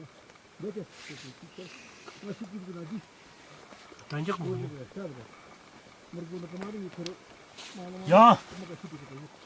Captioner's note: men speaking Tibetic language